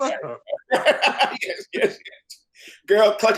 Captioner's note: laughs